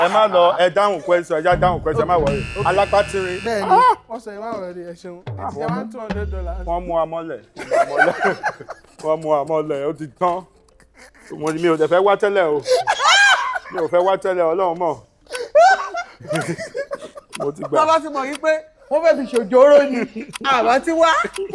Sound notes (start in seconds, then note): 1.6 buzzer pressed; 7.5 everyone laughs